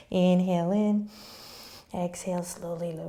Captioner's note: inhaling